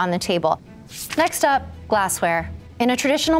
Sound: page flapping

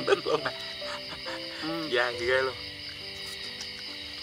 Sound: giggling

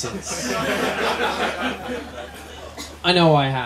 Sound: laughter

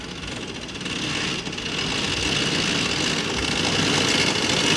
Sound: engine whirring

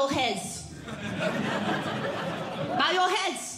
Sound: audience Laughing

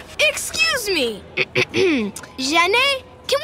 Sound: clearing throat

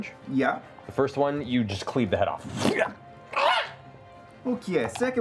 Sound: squeal

